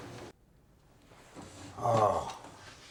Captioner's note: groans